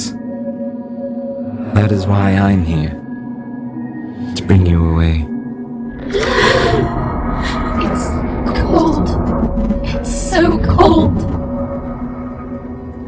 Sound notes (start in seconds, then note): 6.0 The TARDIS gasps in pain